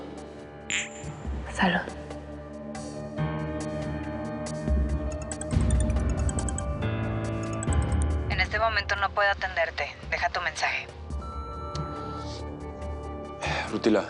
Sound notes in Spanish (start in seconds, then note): 5.4 Suena el celular; 11.9 Bip